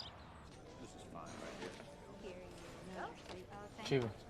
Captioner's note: indistinct chatter